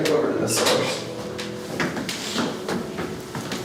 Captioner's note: doors open and close, footsteps in hallway, walking into office